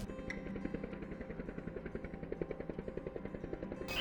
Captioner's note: helicopter whirring